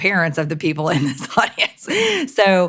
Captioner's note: laughs